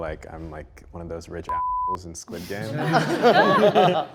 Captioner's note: beep; group laughs